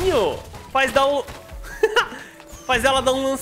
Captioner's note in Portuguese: risos